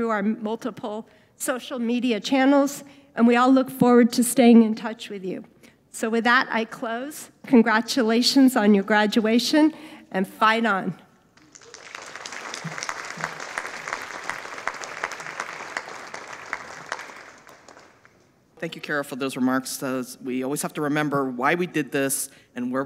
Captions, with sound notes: through our multiple social media channels. And we all look forward to staying in touch with you. So with that, I close. Congratulations on your graduation and fight on. (audience applauding) - Thank you Carol for those remarks. We always have to remember why we did this